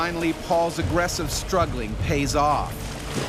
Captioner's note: voiceover